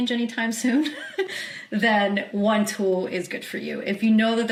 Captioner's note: chuckles